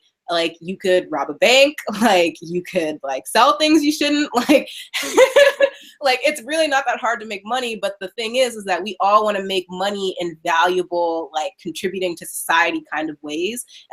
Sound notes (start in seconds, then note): 4.9 laughing